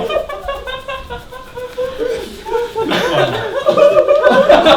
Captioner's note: Ruler laughing through the pain